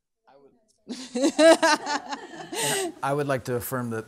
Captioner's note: people laughing